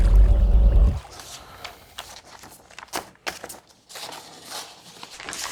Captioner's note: paper rustling